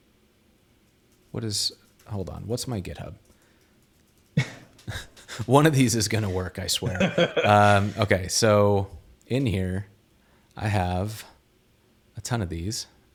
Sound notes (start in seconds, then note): 4.4 chuckles; 6.8 chuckling; 6.8 laughs